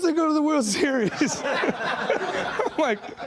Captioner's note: laughing